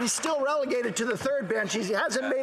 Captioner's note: some Applause